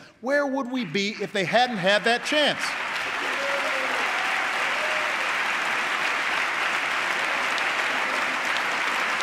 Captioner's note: applause